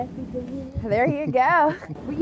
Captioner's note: chuckling